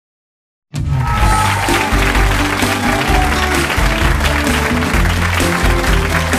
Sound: audience applauding; bright music

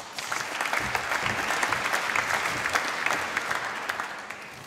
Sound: applause

